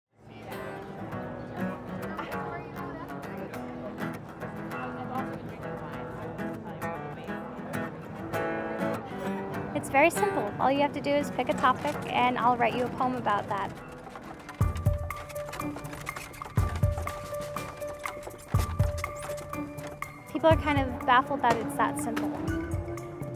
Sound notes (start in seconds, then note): 0.3 soft guitar music; 4.6 people chattering; 7.2 soft guitar music; 14.5 cart creaking; 14.5 quirky music